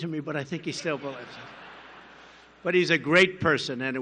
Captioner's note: laughter